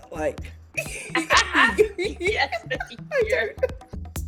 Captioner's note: laughing